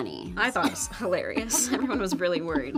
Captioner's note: Brianne laughs